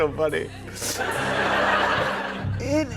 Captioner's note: laughter